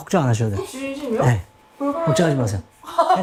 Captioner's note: tongue-tied